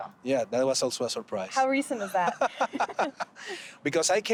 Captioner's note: laughing